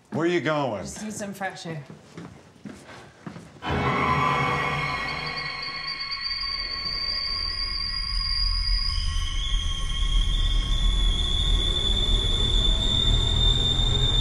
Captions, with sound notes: Where are you going? - I just need some fresh air. (ominous music) (loud whistling)